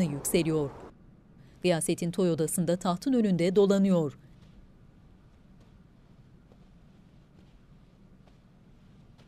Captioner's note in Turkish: Ayak sesi